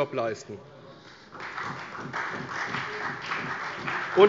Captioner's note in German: Beifall bei der CDU